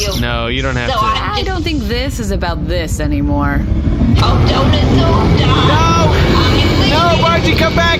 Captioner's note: engines humming